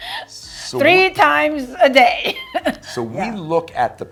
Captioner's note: laughs; laughs